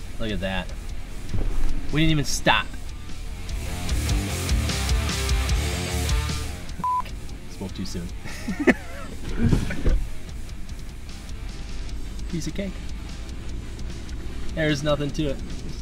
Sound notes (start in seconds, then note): 3.7 upbeat music; 8.2 laughs